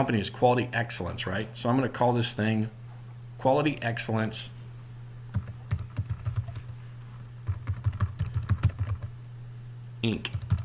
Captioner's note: typing